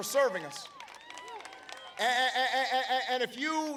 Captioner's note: applause